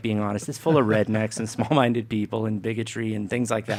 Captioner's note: laughter